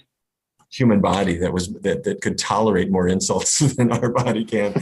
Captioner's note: laughs